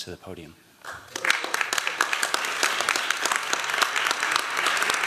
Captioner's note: applause